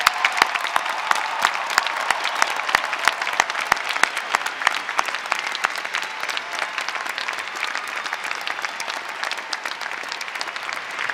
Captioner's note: applause